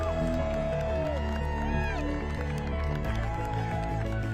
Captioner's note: cheers and applause